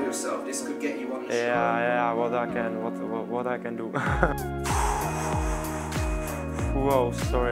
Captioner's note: deep breathe and laughs